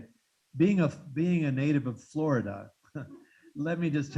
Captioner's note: chuckles